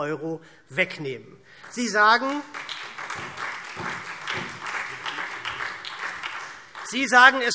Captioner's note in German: Beifall SPD